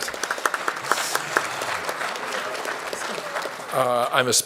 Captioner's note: applause